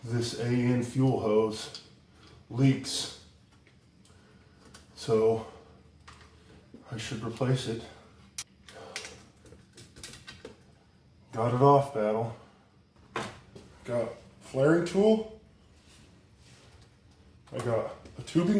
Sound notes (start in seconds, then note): none